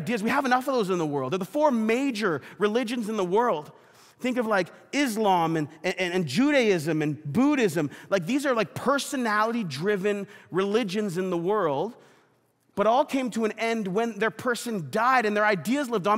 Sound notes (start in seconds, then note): none